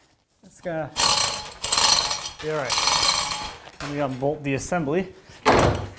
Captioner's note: chains sliding